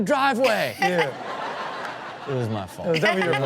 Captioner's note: audience laughs